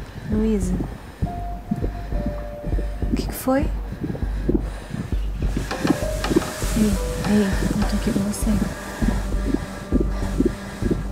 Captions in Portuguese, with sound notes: Luiza? (RESPIRAÇÃO OFEGANTE) O que foi? (RESPIRAÇÃO OFEGANTE) Ei, eu estou aqui com você.